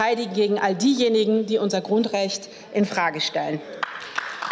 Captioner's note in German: Beifall